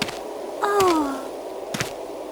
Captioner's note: moans